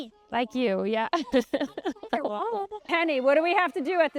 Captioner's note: chuckling